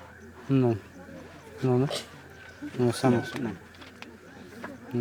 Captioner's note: speaking Spanish